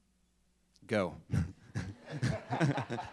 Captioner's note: laughs; audience laughing